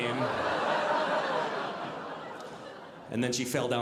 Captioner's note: audience laughing